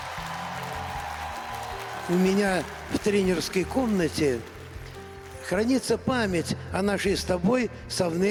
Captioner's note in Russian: ликование